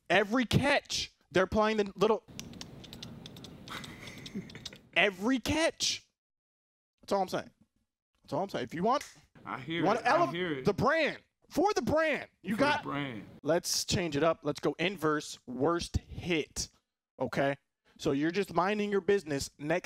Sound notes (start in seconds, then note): 2.5 making drum noises; 3.7 laughing